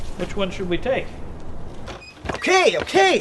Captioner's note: door bursts open